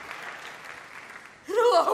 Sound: applause

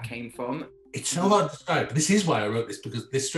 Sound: murmurs

